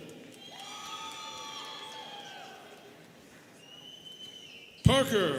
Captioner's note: students cheering